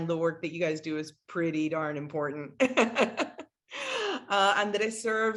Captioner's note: laughs